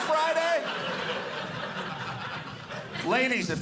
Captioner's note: audience laughing